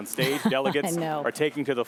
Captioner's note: laughter